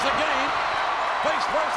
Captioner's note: audience cheers